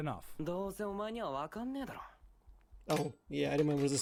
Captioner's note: speaking in foreign language